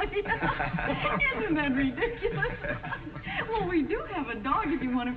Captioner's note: chuckles; laughing